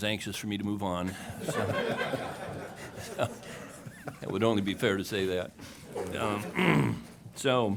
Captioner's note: laughing